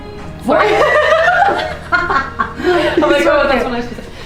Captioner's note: laughing